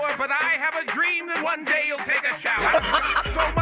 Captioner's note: laughs